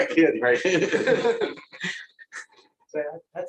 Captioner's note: laughter